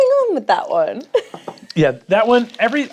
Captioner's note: chuckles